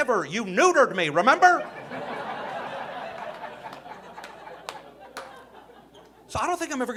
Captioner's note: audience laughing